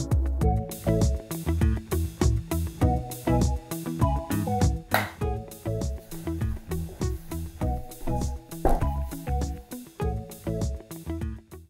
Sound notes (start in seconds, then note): 4.9 clap